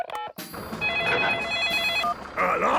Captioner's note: phone ringing; phone beeping